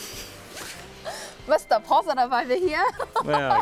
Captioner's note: laughs